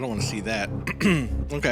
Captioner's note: uncomfortable throat clearing